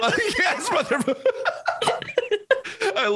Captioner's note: both laughs